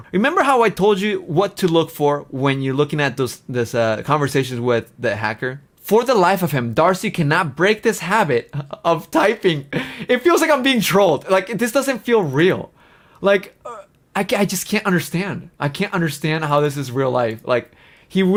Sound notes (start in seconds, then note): 9.6 laughs